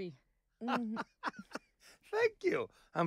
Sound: José laughing

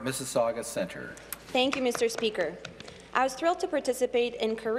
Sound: some Applause

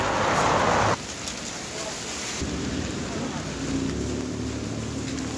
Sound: rain pattering

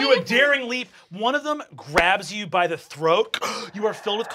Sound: gasps

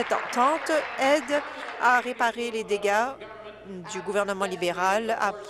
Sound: applause

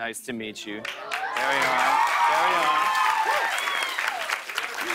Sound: cheers and applause

